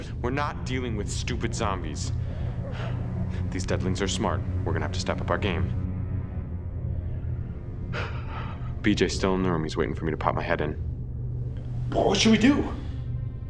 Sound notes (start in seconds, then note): 7.9 sighing